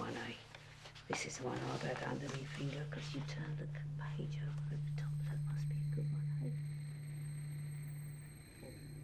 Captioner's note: voice fades away